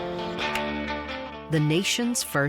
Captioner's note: cue ball strikes